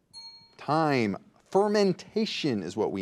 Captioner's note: bell dings